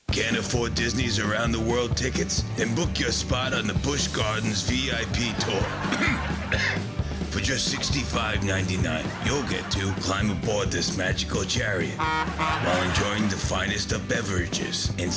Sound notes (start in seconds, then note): 5.4 coughing; 11.9 horn honking